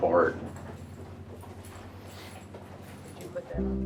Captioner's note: keys jangling